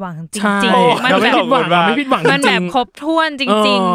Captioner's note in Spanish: Risas